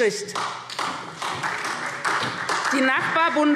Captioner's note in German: Beifall SPD